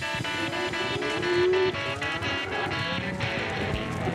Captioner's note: cattle moo